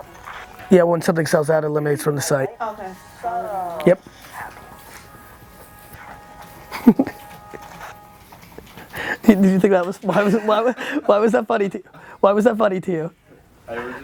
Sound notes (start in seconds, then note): 2.9 voiceover; 6.4 laughs